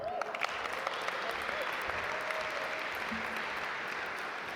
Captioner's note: audience applaud